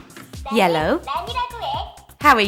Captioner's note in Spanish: Suena un sonido infantil